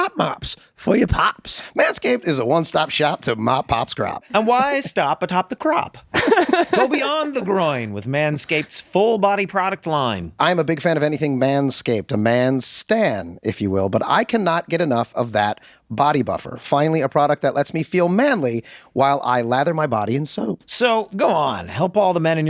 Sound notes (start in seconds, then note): 7.7 laughing